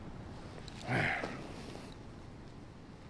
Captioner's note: sighs